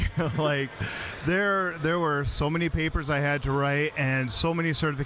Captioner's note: laughing